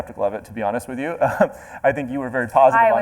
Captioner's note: chuckles